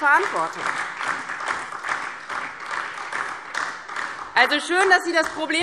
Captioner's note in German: Beifall